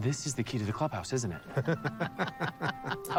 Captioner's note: both laughing